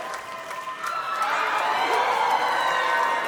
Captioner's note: applause; cheering